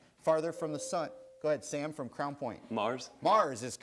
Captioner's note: buzzer sounds